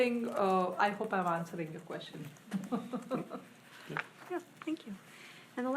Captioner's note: laughs